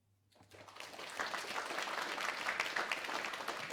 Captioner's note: applause